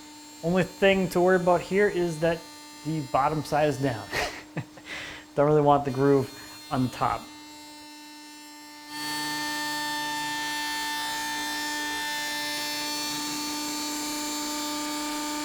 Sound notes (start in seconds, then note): 4.0 chuckling; 9.0 slot-cutter continues buzzing